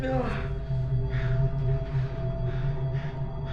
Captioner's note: panting